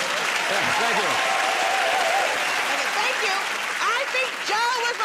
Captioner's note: cheering and applause